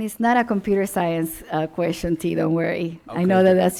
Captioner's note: laughing